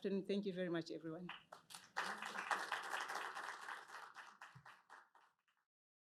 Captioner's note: applause